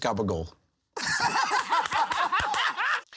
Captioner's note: laughing; laughter